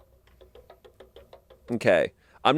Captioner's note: wheel clicking